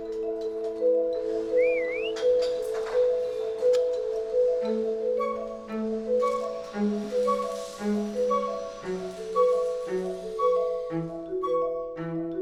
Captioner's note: whistles